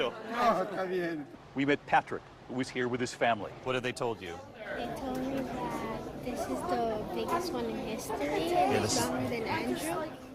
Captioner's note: speaking foreign language